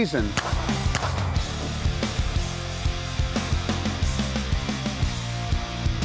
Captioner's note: rock music; gunshots